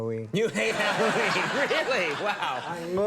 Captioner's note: audience laughing